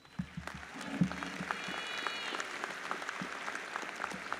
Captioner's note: audience applauds